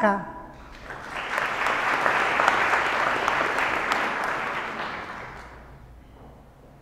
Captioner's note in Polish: oklaski